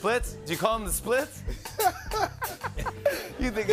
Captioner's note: laughter